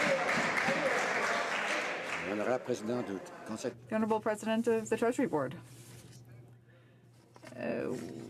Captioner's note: some Applause